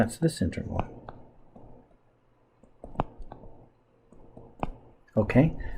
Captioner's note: writing Sounds